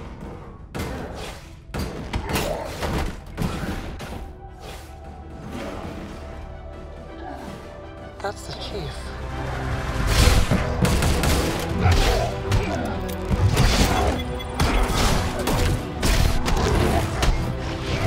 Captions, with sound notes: [metal clanging] That's the Chief. [guns firing]